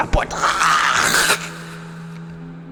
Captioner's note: scream